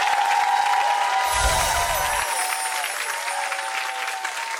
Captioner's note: audience cheering and clapping; bar chimes